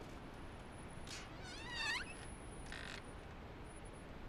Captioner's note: door creaks